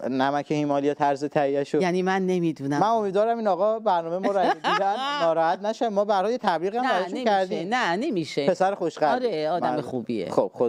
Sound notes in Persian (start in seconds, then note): 4.2 خنده